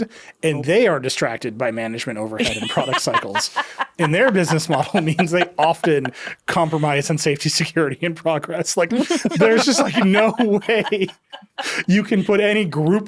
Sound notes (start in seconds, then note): 2.4 laughing; 8.9 all laughing